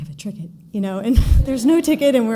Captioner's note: giggle